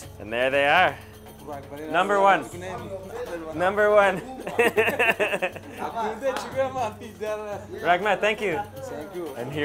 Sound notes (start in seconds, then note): 4.1 laughing; 5.2 in foreign language